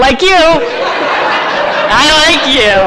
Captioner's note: audience laughs